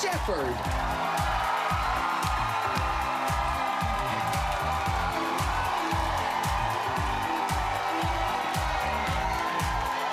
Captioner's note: cheers and applause